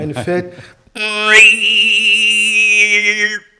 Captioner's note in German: Zitternder Laut